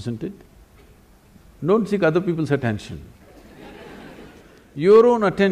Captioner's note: laughter; 笑聲